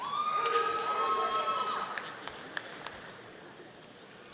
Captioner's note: audience applauding